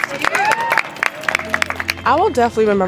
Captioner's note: clapping and cheering